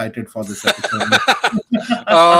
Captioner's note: both laughing